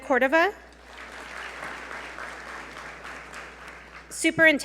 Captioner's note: audience applaud